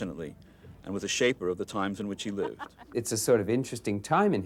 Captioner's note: woman reporter laughs